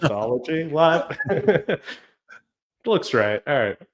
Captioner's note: chuckles